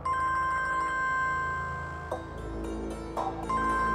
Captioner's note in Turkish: Telefon çalıyor